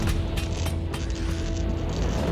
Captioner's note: clanking